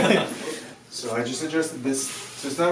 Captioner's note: laughing